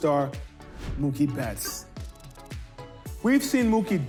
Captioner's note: logo whooshing